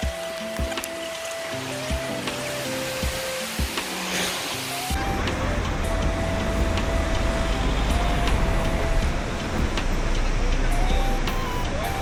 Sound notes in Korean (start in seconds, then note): 5.3 예쁜 풍경 + 물소리